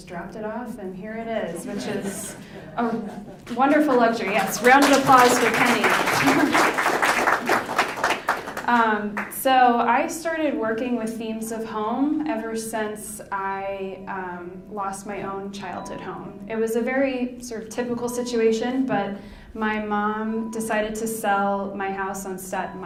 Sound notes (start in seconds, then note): 1.5 laughing; 6.6 clapping